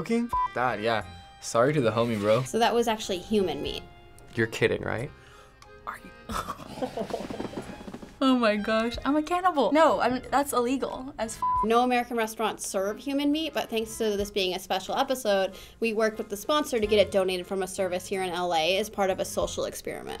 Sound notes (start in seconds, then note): 6.7 whimpering